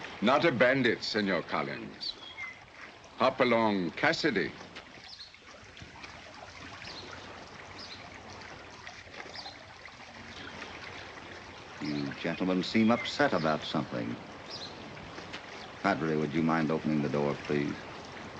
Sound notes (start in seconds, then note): none